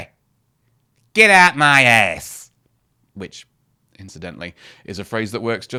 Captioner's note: cockney noises